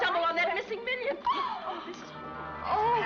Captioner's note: gasps